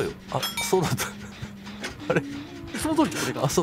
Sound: laughing

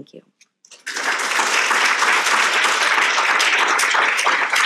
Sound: audience applauding

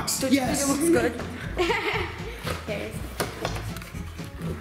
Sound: laughing

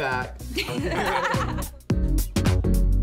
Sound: laughter

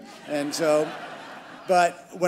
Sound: crowd laughing

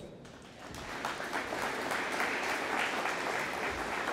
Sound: audience applauding

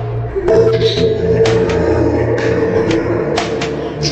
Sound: someone is laughing

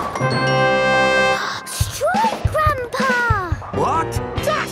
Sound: gasps

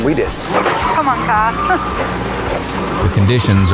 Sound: chuckling

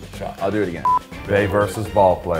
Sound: static beep

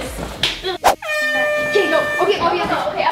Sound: air horn blows

